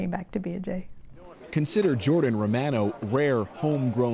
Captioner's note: applause